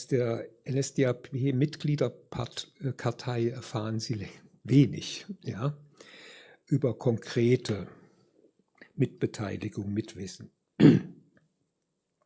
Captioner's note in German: räuspern